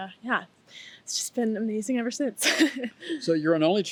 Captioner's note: laughs